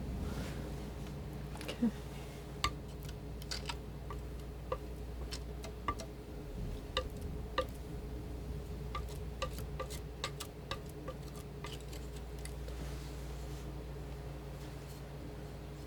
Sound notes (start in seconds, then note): 3.2 tapping